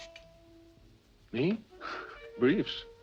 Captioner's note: chuckles